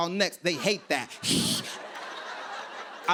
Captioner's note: hisses